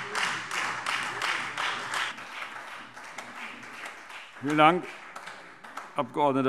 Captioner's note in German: Beifall Freie Demokraten und vereinzelt SPD